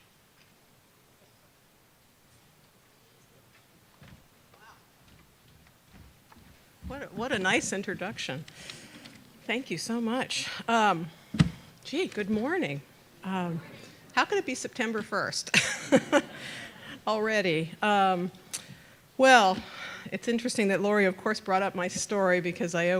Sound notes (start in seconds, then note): 15.5 laugh